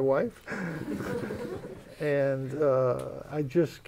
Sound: laughter

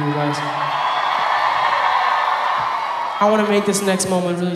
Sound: audience applauding

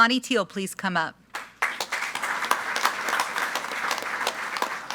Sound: group applauding

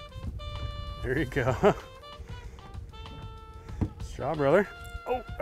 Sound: chuckles

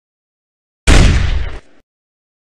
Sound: gunshot

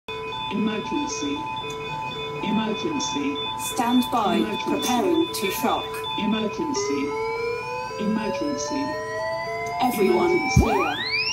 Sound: computer voice

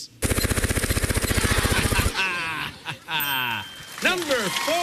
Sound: laughter

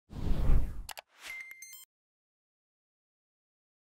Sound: air whooshing

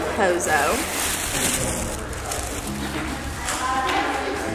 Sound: wrapper crinkling

